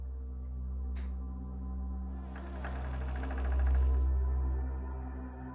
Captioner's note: doorknob turning; door creaking